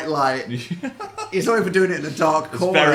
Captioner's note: Phil laughing